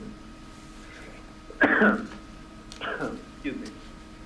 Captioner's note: coughs